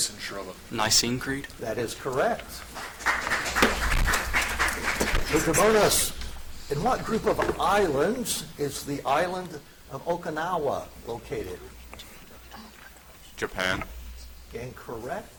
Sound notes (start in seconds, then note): 2.4 audience applauds